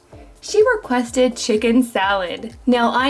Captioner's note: none